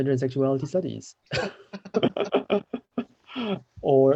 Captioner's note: laughter